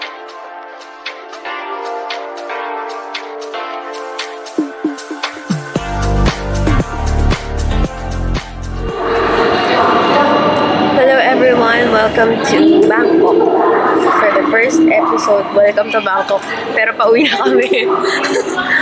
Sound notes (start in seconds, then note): 15.3 giggles